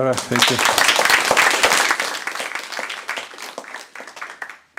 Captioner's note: applause